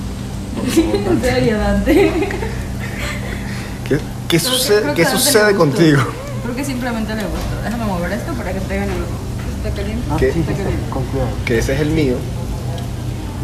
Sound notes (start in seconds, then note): 1.8 laughter